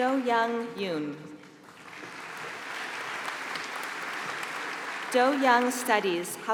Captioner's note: applause